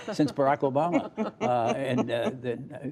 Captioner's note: laughter